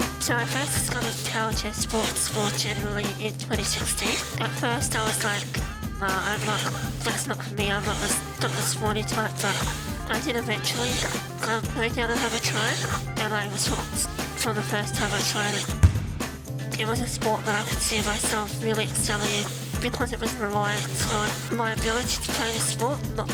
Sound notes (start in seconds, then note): 15.8 ball bangs